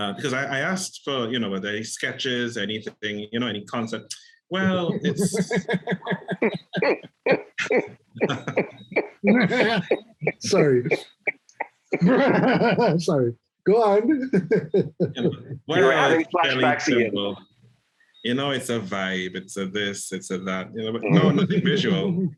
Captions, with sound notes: Because I asked, you know what? Are there any sketches or anything, you know any concept? Well, it's [GIGGLES] [Laughs] Sorry. I'm sorry. Go ahead. You know, it's a vibe. It's this. It's that, you know, nothing visual.